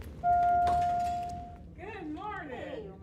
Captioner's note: authoritative music; bell dings